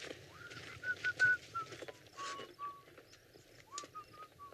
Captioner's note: Miguel whistling